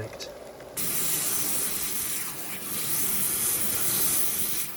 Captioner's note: waterjet buzzing